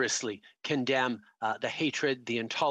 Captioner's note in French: voix de l'interprète